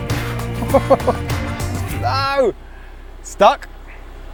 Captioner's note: laughs